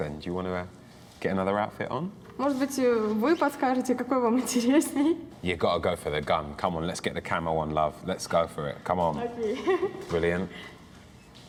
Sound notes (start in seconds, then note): 9.5 laughs